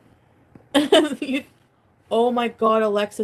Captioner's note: laughs